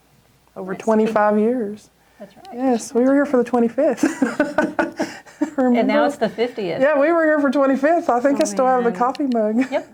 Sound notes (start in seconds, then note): 3.9 laughs